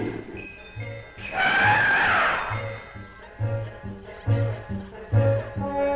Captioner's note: Pete roaring; roaring